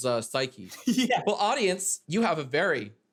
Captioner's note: laughing